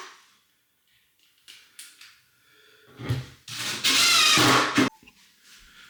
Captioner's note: drill whirring